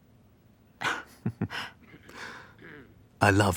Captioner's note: both laughing